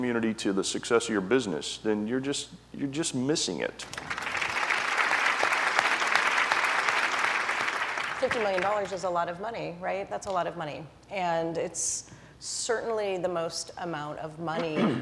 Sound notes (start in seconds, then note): 3.8 applause